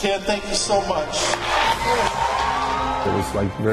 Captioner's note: audience cheering and applauding